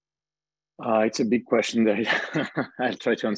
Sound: chuckles

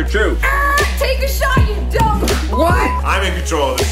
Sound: beep

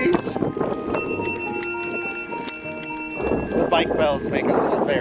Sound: bike bell rings

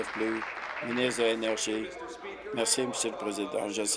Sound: applause

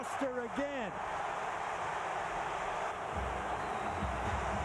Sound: cheering, applause

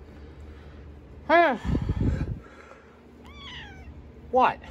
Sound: Caprice meows

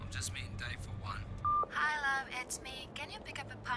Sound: beep

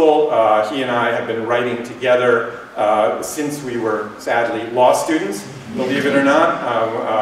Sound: laughter

